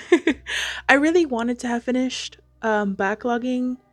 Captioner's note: laughs